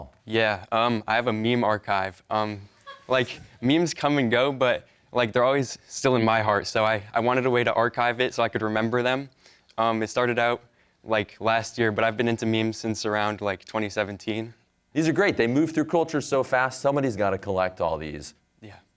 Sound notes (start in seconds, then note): 2.8 audience laughs